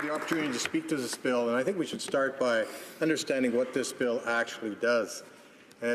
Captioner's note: applause